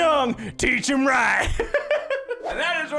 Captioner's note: laughs